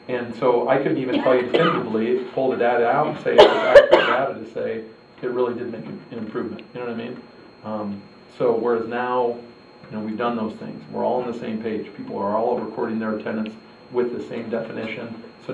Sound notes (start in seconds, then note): 3.0 cough drowns out dialogue